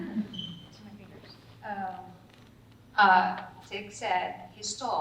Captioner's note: talking softly